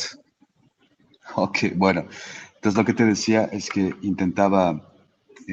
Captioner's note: in Spanish